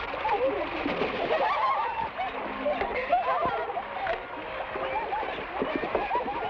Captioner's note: women laugh; water splashes; women laugh